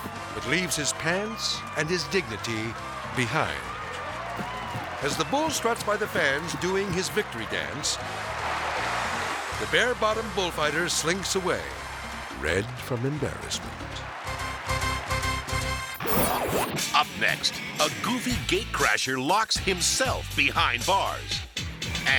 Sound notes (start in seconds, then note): 8.1 crowd cheering; 14.4 dramatic music; 16.2 logo whooshes